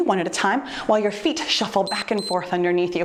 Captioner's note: timer beeps